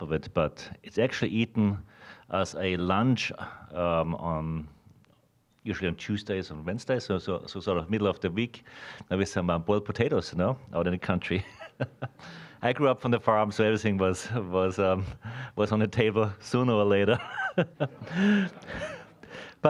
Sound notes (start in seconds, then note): 11.4 chuckling; 17.1 all laughing